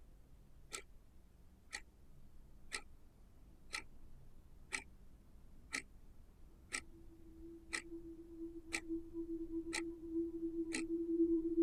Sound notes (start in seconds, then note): 2.7 eerie dramatic music; 6.6 clock ticking continues